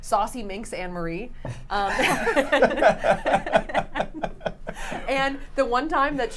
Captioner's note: laughing